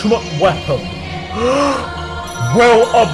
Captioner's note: inhale